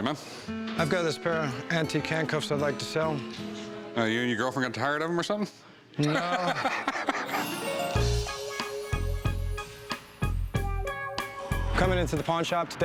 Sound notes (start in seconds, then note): 6.0 laughs